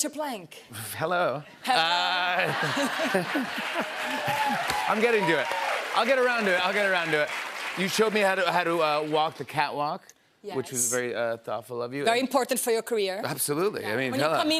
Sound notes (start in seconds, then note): 2.2 laughter; 2.4 cheers and applause